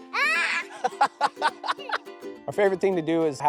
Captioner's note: laughter